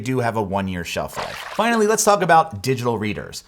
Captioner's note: water splashes